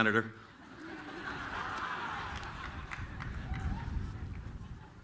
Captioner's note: laughter